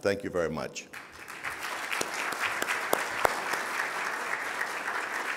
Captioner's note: audience applauding